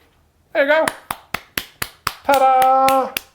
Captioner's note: claps